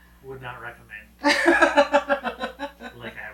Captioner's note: laughing